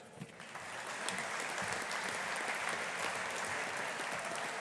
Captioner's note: audience applauding